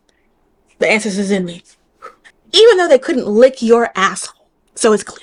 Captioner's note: exhale